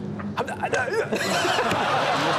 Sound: Conan grunting; audience laughs

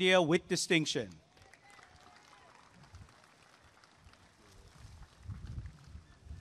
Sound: applause and cheering

